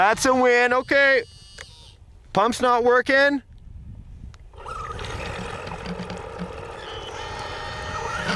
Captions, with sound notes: That's a win, okay. Pump's not workin'. (engine revs)